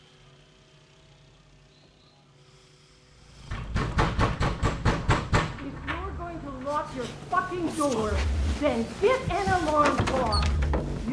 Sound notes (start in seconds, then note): 3.4 pounding